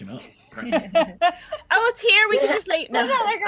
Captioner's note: laughing